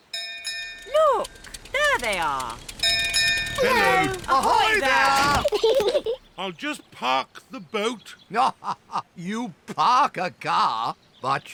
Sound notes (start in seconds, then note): 0.1 bell rings; 3.5 peppa and george giggle; 8.3 laughs